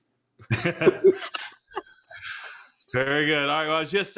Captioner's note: laughs